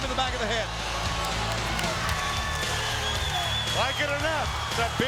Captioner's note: applause